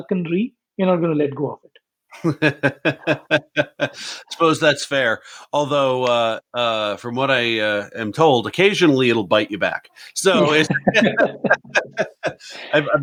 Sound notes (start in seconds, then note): 2.1 laughing; 10.0 laughing